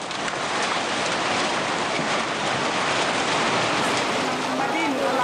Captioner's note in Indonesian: suara gelombang air